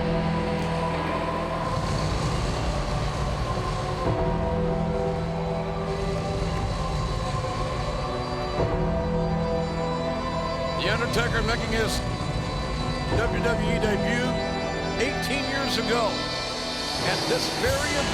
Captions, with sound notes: (fire roaring) The Undertaker making his WWE debut 18 years ago at this very event,